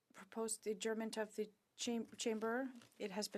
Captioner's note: speaking French